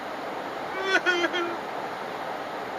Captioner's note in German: heul heul